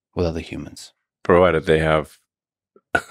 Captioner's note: laughs